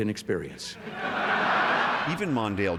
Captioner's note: laughter